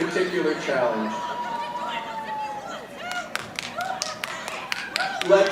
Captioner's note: audience chattering and yelling